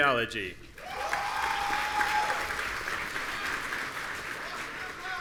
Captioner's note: audience cheering